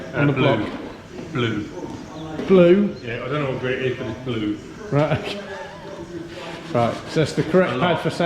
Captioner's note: laughs